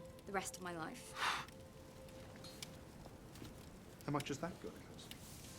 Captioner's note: man sighs